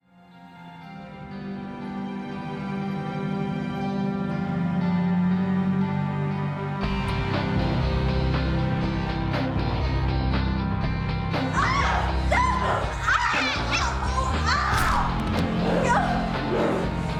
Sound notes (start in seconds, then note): 11.4 shouting